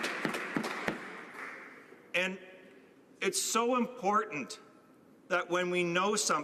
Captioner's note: applause